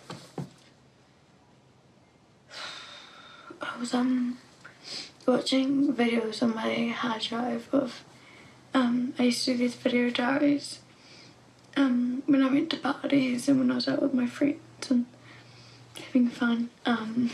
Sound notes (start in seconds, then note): 2.5 exhales